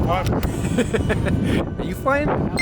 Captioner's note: laughs